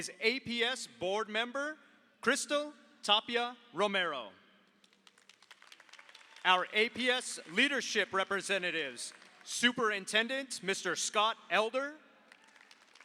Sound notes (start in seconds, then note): 5.0 audience applauds; 12.3 audience applauds